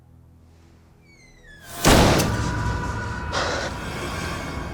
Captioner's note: door slamming